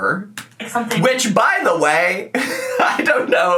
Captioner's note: laughs